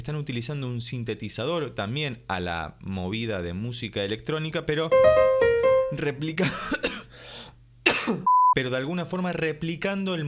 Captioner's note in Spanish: cof